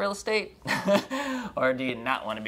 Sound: laughing

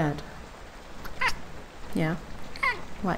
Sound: meow

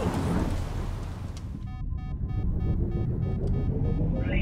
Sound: beeping

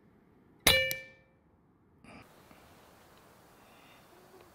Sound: shot fired

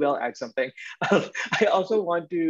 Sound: laughs

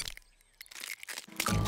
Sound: cracking

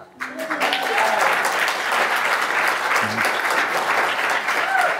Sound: audience applauding

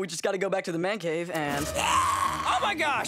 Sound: growling

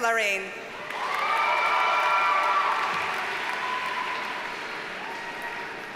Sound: audience cheers and applauds

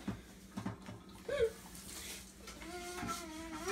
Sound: sobbing

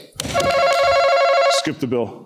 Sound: buzzer ringing

